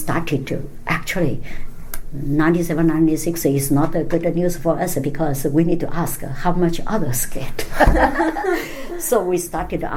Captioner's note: all laugh